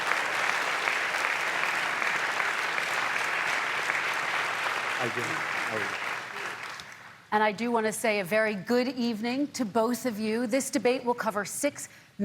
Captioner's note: applause